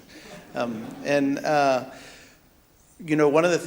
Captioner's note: audience laughs